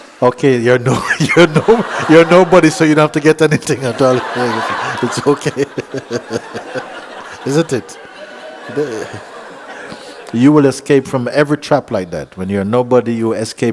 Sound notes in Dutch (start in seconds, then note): 9.3 gelach